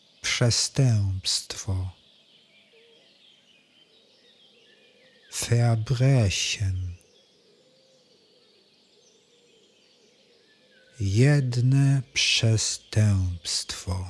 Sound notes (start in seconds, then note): 6.5 german